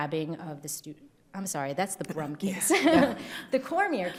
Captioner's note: laughing